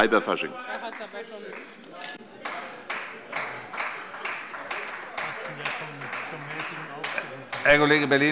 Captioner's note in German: Beifall bei Abgeordneten der CDU